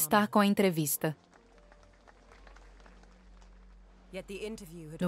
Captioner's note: audience applauds